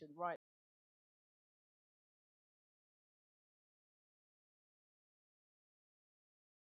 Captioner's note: silence